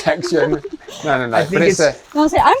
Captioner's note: laughs